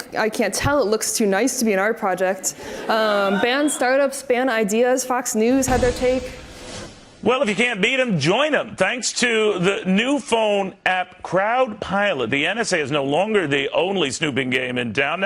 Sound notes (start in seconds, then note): 2.5 audience laughs